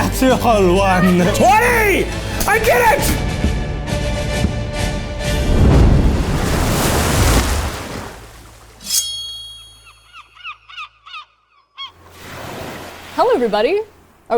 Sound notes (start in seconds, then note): 3.1 dramatic music; 9.8 bird cawing